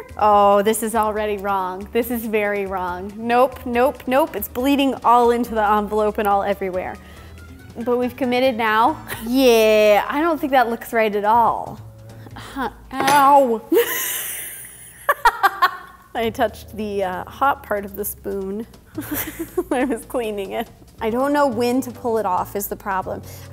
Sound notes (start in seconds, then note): 13.9 laughing